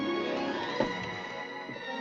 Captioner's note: tap